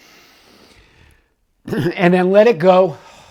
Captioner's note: inhales